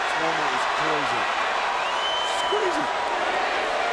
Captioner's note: audience cheering